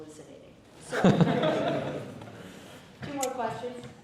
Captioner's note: laughter